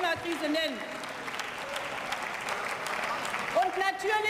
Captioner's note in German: Beifall